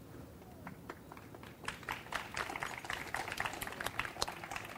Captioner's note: audience applauds